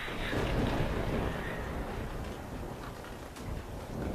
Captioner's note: thunder booming